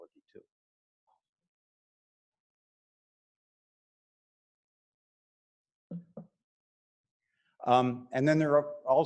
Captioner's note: silence